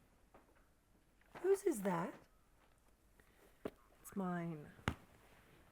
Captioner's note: none